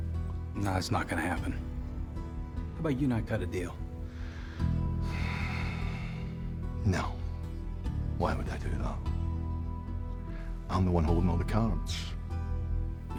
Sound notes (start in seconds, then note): 5.0 sighs deeply; 6.7 scottish accent